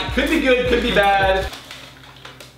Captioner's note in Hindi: बैग crinkles